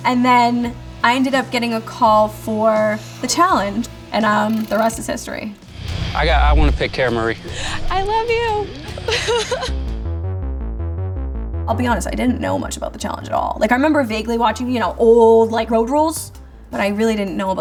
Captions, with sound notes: And then I ended up getting a call for The Challenge, and the rest is history. - I wanna pick Cara Marie. - I love you. (laughing) (upbeat music) I'll be honest. I didn't know much about The Challenge at all. Like I remember vaguely watching old Road Rules, but I really didn't know